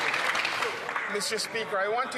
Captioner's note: some Applause